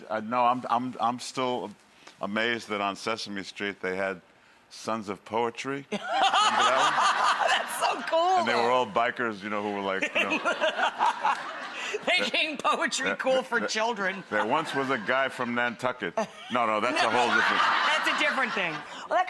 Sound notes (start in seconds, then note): 6.0 laughing; 10.0 laughing